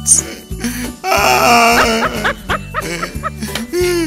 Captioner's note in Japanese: マークの嗚咽